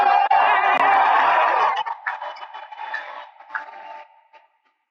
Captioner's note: cheering